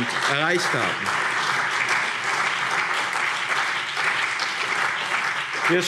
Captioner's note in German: Beifall BÜNDNIS 90/DIE GRÜNEN und CDU